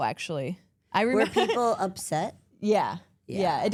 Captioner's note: laughs